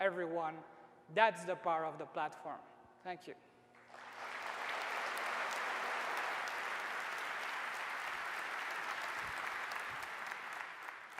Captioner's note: applause